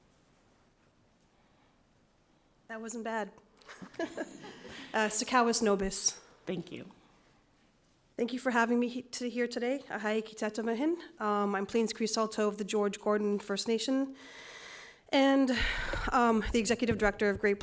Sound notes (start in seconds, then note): 3.7 light laughter; 10.1 foreign language